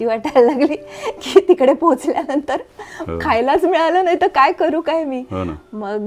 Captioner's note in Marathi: हास्य